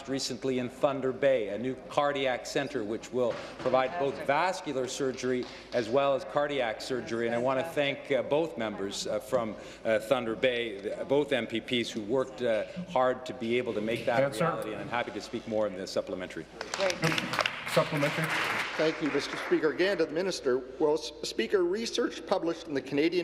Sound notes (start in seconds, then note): 20.7 applause